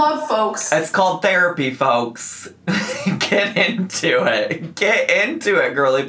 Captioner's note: laughs